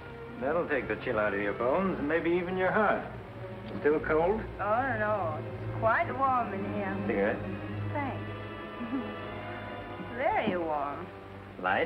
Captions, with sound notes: That will take the chill out of your bones. Maybe even your heart. Still cold? (GROGGILY) Oh, no It's quite warm in here. Cigarette? Thanks. [small chuckle] There you are.